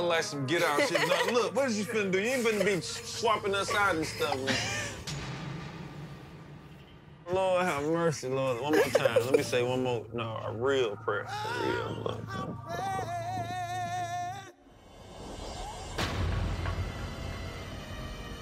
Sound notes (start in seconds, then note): 8.5 laughs; 15.9 sinister music plays